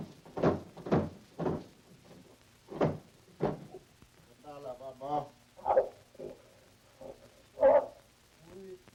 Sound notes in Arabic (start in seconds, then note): 7.6 يئن